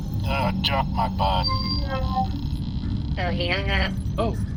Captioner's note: transmission disconnects